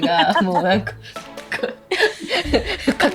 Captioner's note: punching